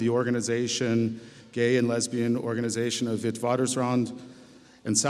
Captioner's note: speaks foreign language